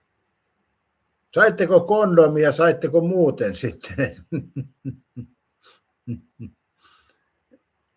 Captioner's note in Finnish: naurua